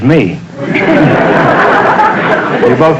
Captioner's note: audience laughter